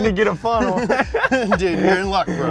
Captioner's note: laughter